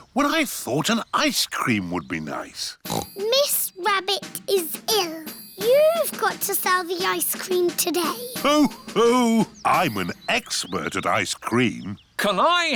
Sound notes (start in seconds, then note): 2.8 snorts; 7.9 laughs